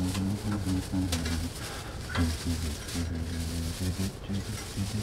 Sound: humming

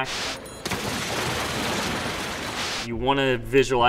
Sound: splashing

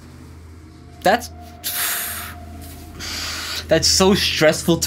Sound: sighs

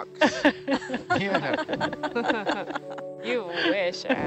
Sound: group laughs

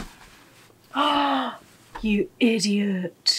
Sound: gasp

